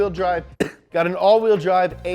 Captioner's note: coughs